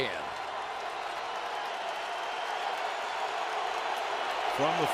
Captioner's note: cheering